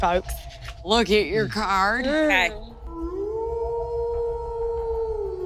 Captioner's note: wolf howling